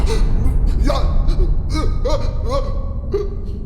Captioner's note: gasping